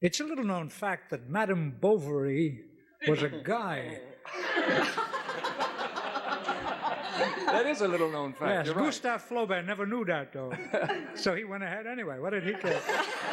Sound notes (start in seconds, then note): 4.2 laughs